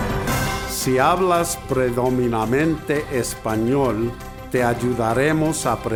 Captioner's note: upbeat music; speaking in foreign language